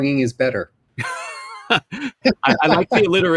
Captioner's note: laugh